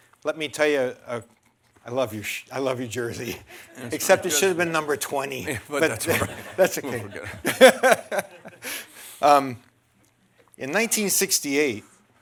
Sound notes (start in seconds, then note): 9.3 laughter